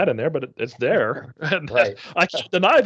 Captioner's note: chuckling